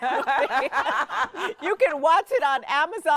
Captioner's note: laughing